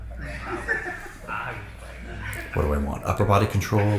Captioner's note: spectator laughs